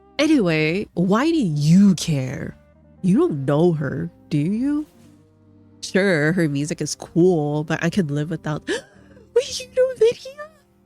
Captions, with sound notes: "Anyway, why do you care?" "You don't know her, do you?" "Sure, her music is cool, but I can live without-" [gasp] Wait! You know Lydia??